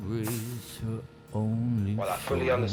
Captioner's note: radio plays